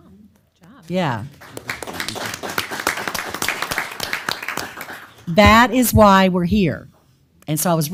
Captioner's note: applause